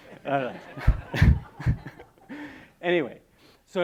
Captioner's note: laughing